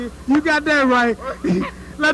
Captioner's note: laughter